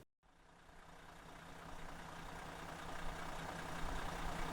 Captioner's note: car engine rumbling